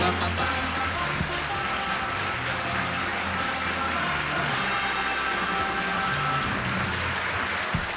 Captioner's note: applause